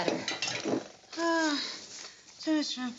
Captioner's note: Alice sighs